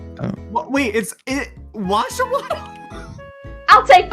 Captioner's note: laughs